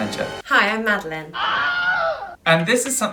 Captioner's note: screaming